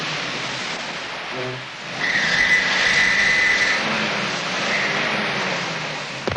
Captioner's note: tires spinning; gun shot